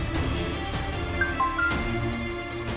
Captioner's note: phone beeps